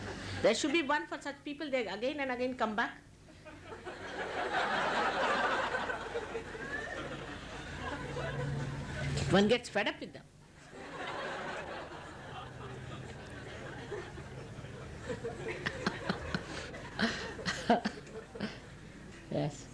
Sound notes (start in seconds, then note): 6.1 laughter; 15.7 laughs